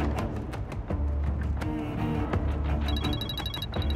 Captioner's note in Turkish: Telefon çalıyor